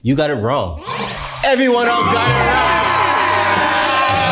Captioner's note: all yelling; all cheering; all laughing